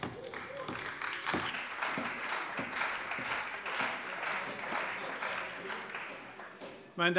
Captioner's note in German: Beifall bei der CDU und dem BÜNDNIS 90/DIE GRÜNEN